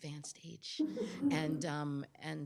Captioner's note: chuckles